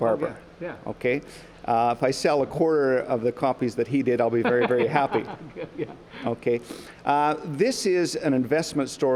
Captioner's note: laughter